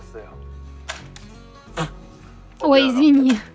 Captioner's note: laughing!